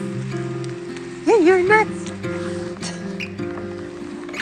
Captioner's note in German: Rascheln im Gras; Quietschende Gitarrensaiten; Plätscherndes Wasser